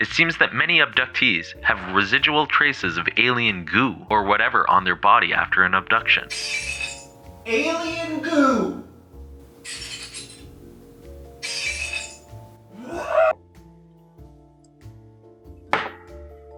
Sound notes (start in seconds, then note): 6.3 dishes breaking in another room; 6.3 screaming from another room; 9.5 dishes breaking in another room; 12.6 screaming in another room